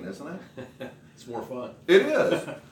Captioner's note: chuckles